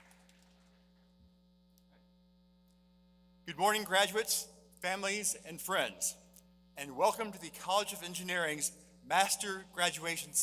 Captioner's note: applause